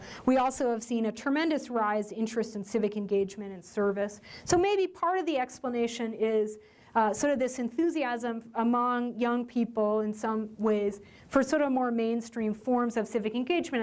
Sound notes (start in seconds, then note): none